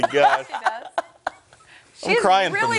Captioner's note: laughter